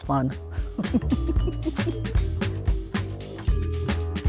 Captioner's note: laughs